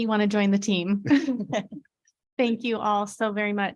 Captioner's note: laughing